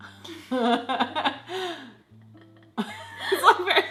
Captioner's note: laughs